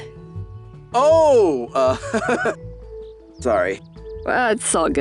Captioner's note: chuckles